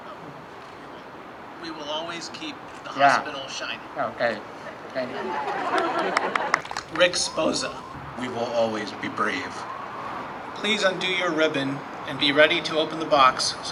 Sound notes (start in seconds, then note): 4.5 audience laughs; 4.6 audience applauds